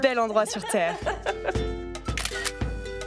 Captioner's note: laughs